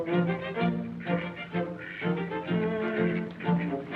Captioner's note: duck quacking